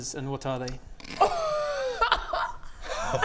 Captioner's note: laughs in schadenfreude